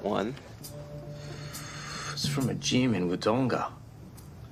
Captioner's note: inhales sharply